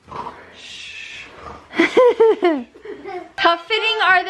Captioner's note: mock snoring; laughing